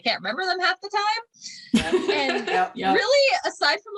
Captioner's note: laughter and agreement